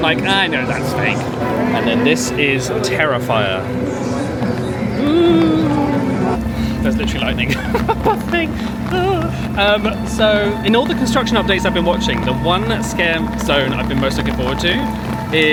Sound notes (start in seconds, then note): 9.2 chuckles